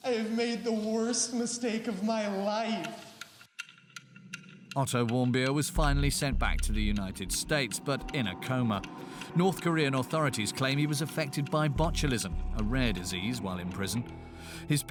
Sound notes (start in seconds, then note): 3.0 clock ticking